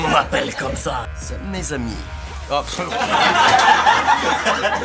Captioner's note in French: rire général; rires